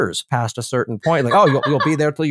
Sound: laugh

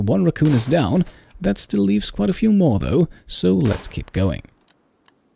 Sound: gunshot; gunshot

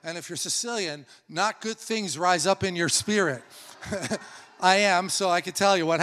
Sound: laughs

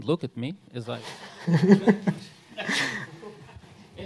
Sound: laughter

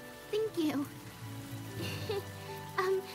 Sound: small laugh

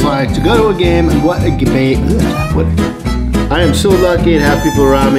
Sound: whimsical music; speaks gibberish

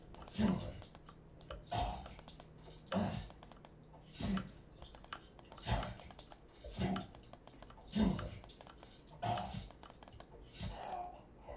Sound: excessive clicking

